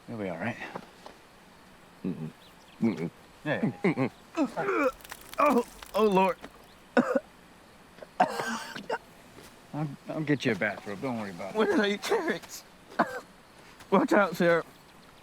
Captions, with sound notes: - You'll be all right. - Mm-mm! Mm-mm! - You got it. (deputy retches) - Oh, Lord! (deputy coughs) - I'll get you a bathrobe. Don't worry about it. - When did I eat carrots? Watch out, sir.